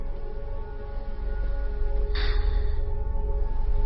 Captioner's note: sighing